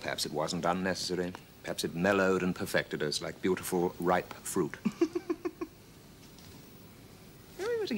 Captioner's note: laughs